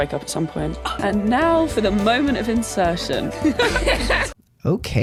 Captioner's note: laugh; laughter